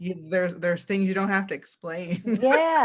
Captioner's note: laughs